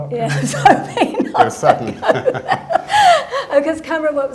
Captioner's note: laughing